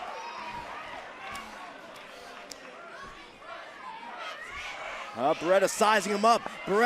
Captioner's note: crowd chatter